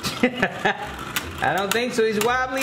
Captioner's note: laughs